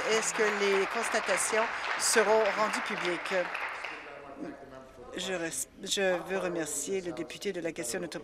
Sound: applause

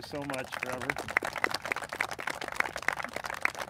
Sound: applauses

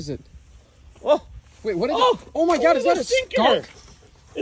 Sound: exclaiming

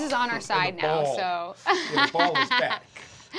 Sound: laughing

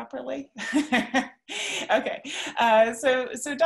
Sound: laughs

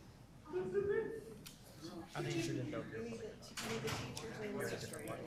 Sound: group chatter

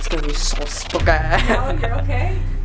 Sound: laughs

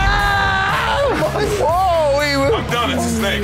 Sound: shrieks

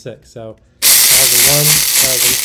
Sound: grinder grinds

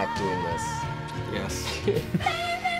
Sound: both laugh

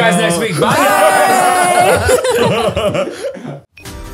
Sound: all laughing; lively upbeat music

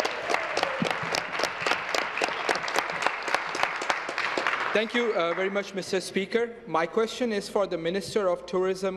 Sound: applause

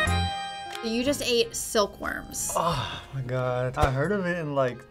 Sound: groaning

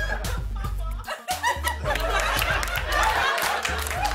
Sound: laughter and applause

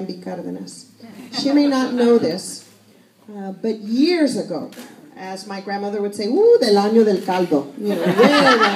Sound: spanish

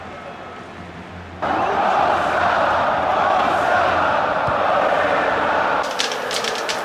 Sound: Mo Salah chants

